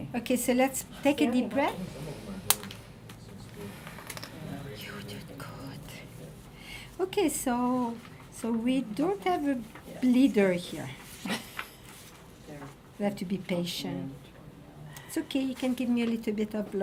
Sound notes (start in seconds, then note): 3.0 needle popping